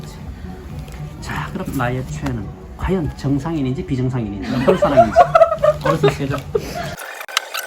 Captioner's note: our laughter.. 😂